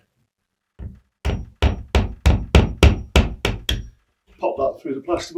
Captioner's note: hammer hammering